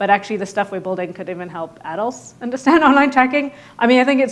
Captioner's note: laughs